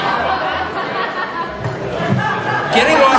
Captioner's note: laughter